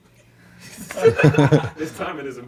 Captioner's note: laughs; audience laughs